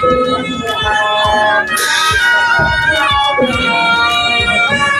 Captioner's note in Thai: ปรบมือ